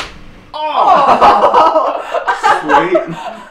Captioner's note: crack; groan